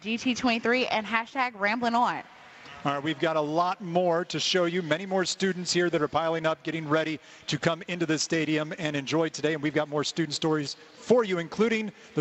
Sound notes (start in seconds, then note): none